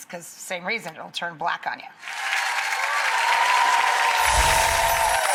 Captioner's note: audience applauding